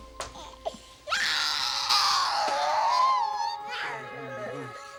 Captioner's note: baby crying